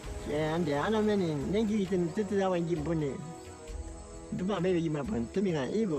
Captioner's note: speaking in foreign language